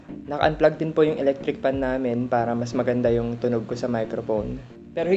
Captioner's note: none